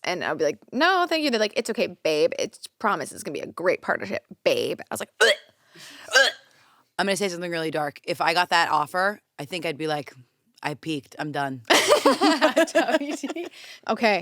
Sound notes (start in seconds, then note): 6.1 retches; 11.8 laughs